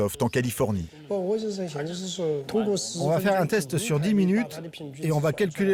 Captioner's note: speaking foreign language